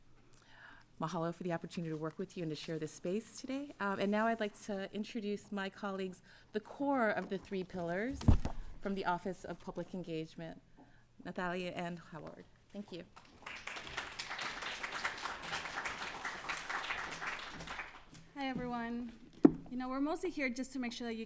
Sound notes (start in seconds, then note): 13.1 applause